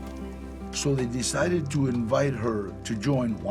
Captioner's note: in English